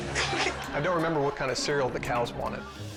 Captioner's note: laughing; whimsical music